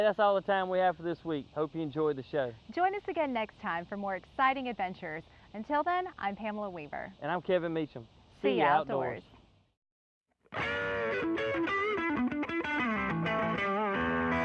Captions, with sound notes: - And that's all the time we have for this week. Hope you enjoyed the show. - Join us again next time for more exciting adventures. Until then, I'm Pamela Weaver. - And I'm Kevin Meachem. - [In Unison] See ya outdoors. (rock music)